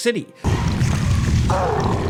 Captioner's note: Hulk grunting; objects crashing